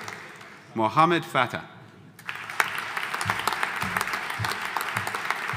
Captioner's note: audience applauding